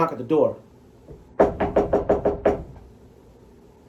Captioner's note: knocking